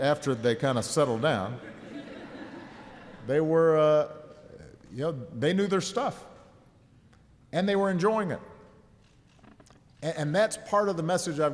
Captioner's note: laughter